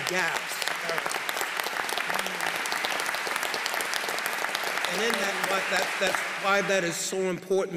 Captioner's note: applause